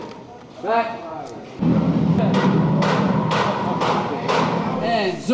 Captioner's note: motors and hammering